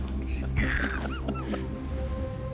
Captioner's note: laughs